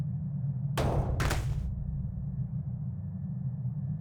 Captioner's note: thud